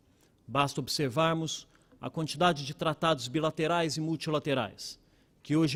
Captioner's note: speaking Portugese